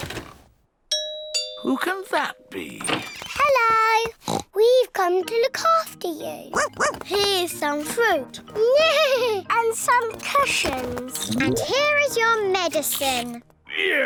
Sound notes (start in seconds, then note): 0.9 doorbell rings; 3.5 oinks; 6.5 barks; 8.4 neighs